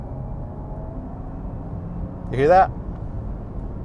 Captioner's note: engine revving